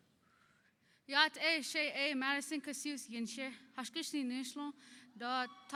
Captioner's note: speaking in foreign language